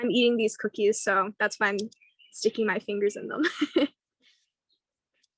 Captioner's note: laughs